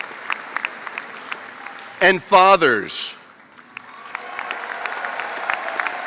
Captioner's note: applause